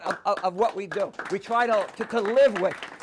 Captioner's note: audience applauding